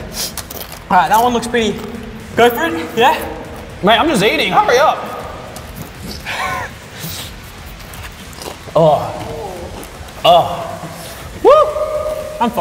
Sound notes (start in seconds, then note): 0.0 sniffs; 5.8 sniffs; 5.9 exhales; 7.7 chips crunching